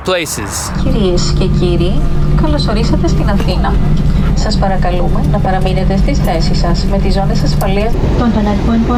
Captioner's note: flight Attendant speaking Greek; flight Attendant speaking Thai